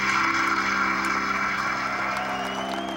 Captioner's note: cheers and applause